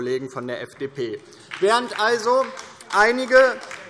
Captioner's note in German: Beifall DIE LINKE